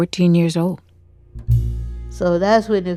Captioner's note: soundbite of archived recording